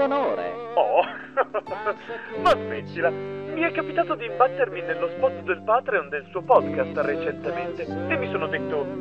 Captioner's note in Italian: risata